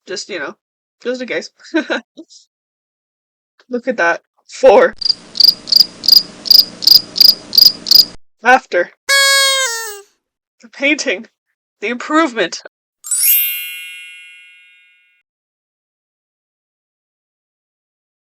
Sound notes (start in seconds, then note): 5.0 crickets